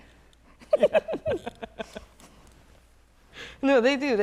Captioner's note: laughter